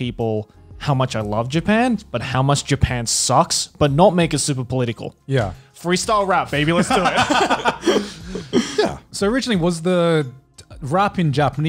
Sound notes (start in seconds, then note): 6.7 laughs